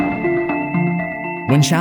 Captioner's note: thunder